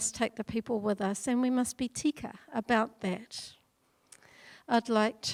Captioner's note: speaking in foreign language